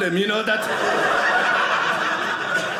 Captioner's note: audience laughing